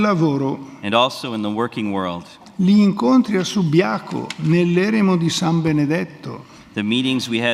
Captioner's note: speaks in Italian